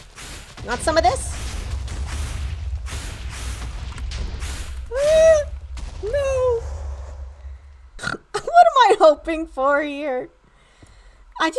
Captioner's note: laughter